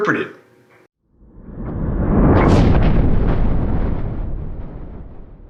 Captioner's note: rumbling